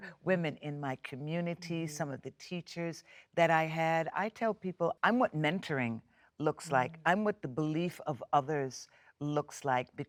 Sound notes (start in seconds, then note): none